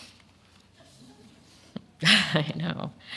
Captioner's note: audience laughing